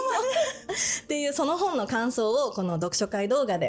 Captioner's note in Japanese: 笑い